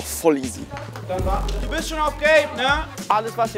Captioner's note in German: Stimmengewirr